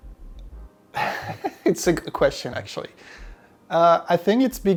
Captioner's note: laughs